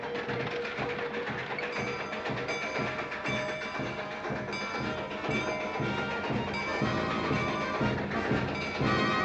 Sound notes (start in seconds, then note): 1.6 station bell tolling; 6.6 marching band playing; 6.6 station bell tolling